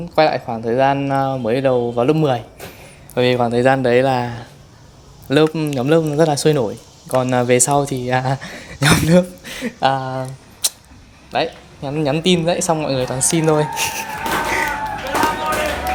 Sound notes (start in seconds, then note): 8.4 laughs